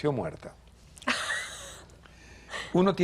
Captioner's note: ríe